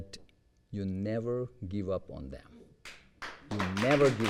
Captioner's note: applause